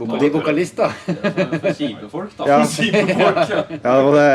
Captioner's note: laughs; everyone laughs